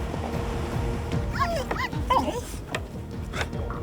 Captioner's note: whimpering